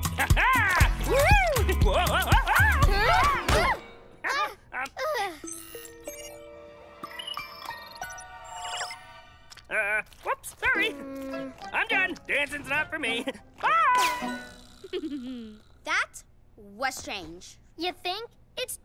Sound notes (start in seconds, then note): 0.1 laughs; 3.2 groaning; 14.8 chuckles